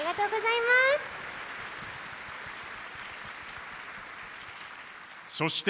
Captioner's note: applause